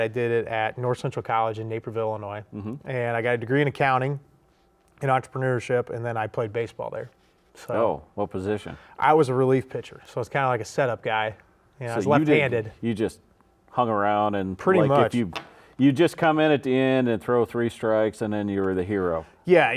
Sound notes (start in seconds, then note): none